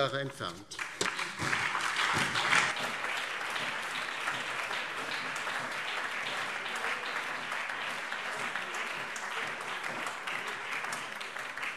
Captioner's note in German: Beifall DIE LINKE, BÜNDNIS 90/DIE GRÜNEN, SPD und vereinzelt CDU